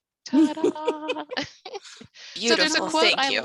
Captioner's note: all laughs